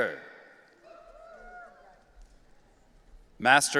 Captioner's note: audience cheering